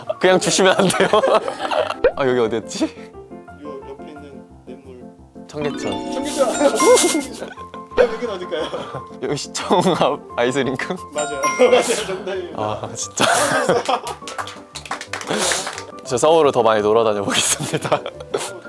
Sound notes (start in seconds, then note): 13.6 applause